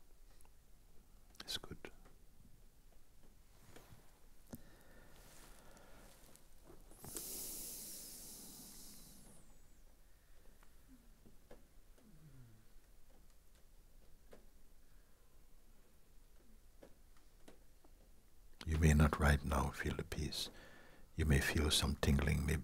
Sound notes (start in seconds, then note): 4.3 silence